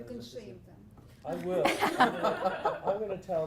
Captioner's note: laugh